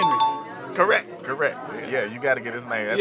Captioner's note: chime dings